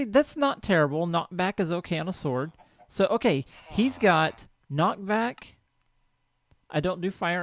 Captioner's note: chicken clucks